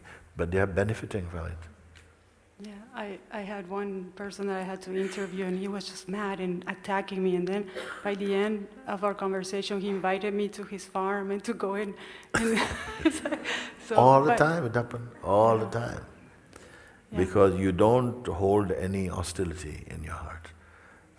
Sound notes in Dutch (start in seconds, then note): 12.3 gelach